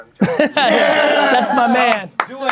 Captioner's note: everyone cheering